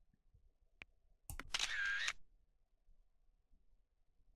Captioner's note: camera shutter sound